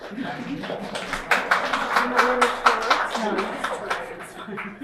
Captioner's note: applauses